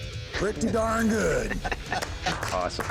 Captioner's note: laughter